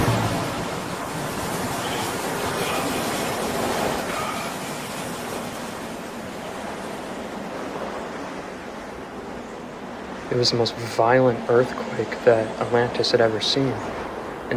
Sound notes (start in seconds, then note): 0.0 earth rumbling; 4.5 wind whooshing